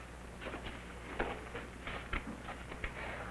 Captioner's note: none